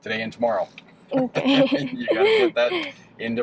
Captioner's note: chuckles